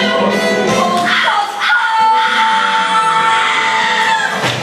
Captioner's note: scream